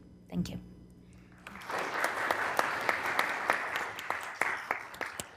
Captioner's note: applause